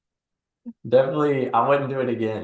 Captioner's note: laughing